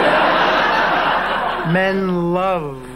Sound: audience laughing

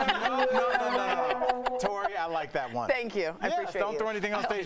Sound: laughter

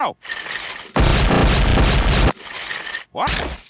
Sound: violent Smashing

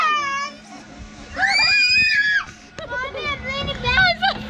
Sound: shrieking

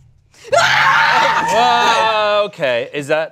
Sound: screams and runs towards group; eery sound effects

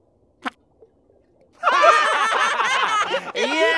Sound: laughing

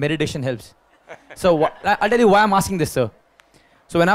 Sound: Sadhguru Laughs

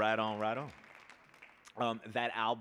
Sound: audience applauding

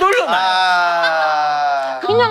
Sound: groaning

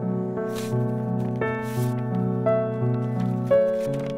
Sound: paper rustling

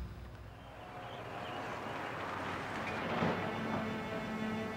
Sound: car whirring

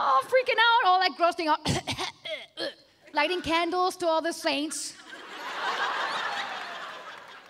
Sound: coughing

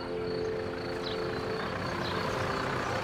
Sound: birds singing

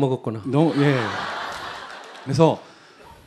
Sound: audience Laughter

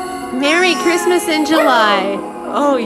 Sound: howling

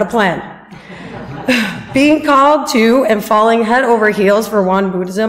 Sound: audience laughs

